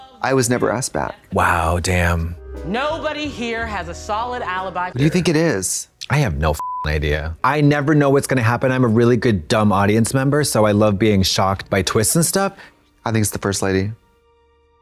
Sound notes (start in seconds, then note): 6.6 beep